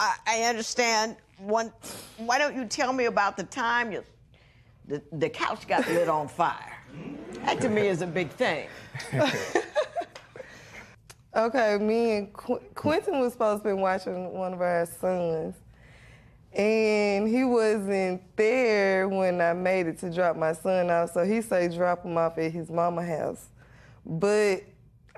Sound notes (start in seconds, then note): 9.0 both laugh